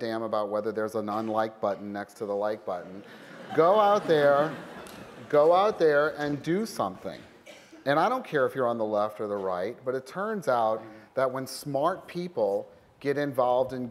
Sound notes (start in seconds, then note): 3.0 laughter